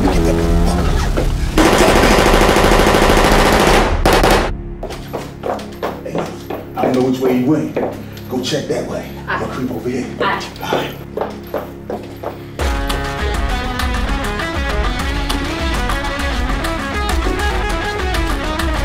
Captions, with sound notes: (machine gun shooting) - I don't know which way he went Go check that way. - Aight! - I'll look over here. - Aight! (Intense Music)